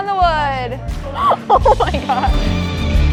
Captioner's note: laughing